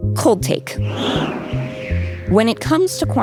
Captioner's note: wind blowing